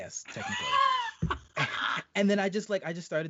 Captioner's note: laughing